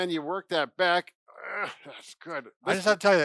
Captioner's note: groans